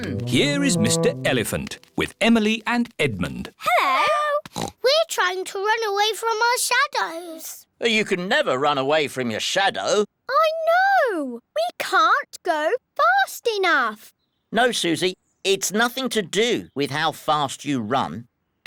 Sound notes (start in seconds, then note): 4.5 oinks